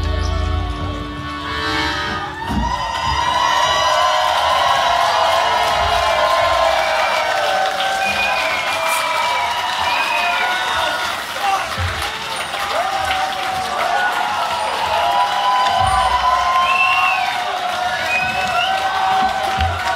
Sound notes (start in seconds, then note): 3.3 cheering